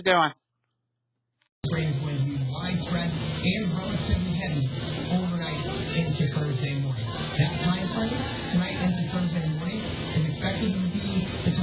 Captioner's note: "21Alive News at Noon" plays in background